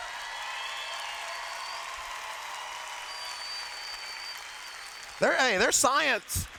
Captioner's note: cheers